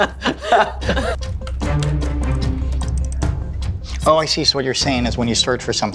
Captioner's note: laughing